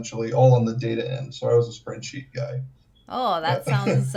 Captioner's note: laughs